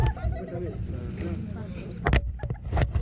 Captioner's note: children giggling